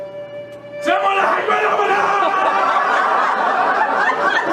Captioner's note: yells intensely; audience laughs